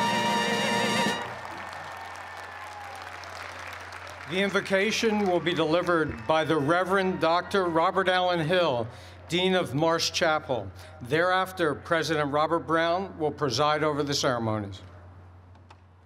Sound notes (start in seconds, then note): 1.8 cheers and applause